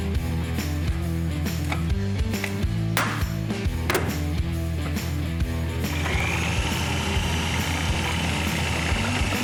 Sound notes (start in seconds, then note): 3.8 snapping; 5.8 sawing continues